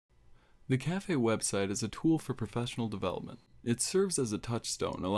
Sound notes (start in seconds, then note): 0.8 voiceover